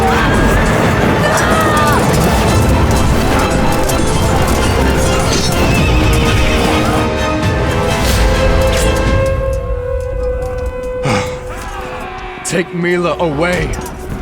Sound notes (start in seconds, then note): 0.0 dramatic orchestral music; 0.0 swords clang; 3.4 flames roar and crackle; 5.8 horse neighs; 8.3 somber music; 8.3 sword hacks; 10.9 Irinarkh sighs